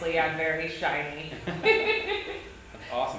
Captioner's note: laughing